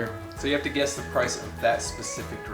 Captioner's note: male Voice